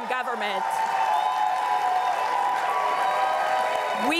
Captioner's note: crowd cheering and applauding